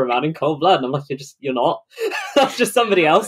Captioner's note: laughing